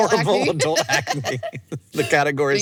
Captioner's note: both laugh